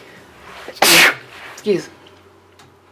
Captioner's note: sneezes